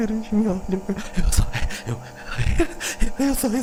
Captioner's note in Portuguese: respiração ofegante; gaguejando